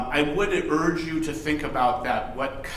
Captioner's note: none